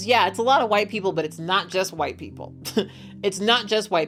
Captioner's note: laughs